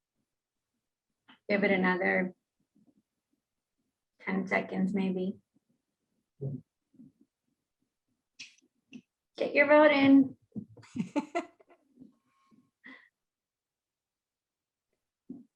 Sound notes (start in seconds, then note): 10.8 laughing